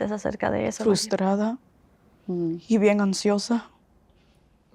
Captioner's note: Spanish